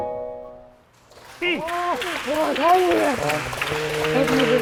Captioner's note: huge applause